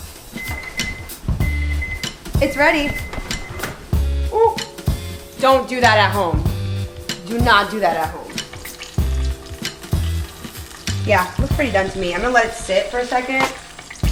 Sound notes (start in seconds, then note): 0.0 mellow music; 0.3 timer beeping; 9.1 oil sizzling